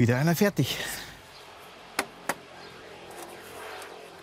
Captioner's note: distant traffic noises